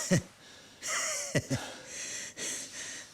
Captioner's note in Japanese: 笑い